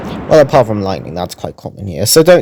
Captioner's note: lightning-Strike 🌩️